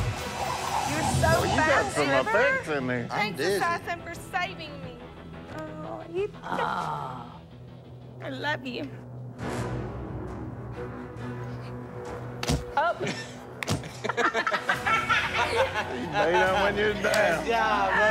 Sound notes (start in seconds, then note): 0.7 chattering; 12.4 thud; 13.8 laughter